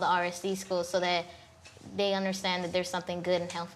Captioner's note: none